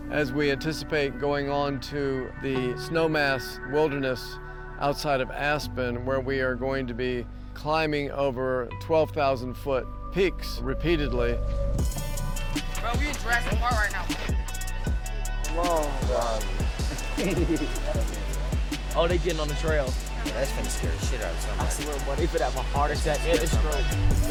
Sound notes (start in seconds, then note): 16.8 chuckling